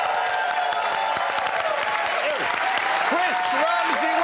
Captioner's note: cheers and applause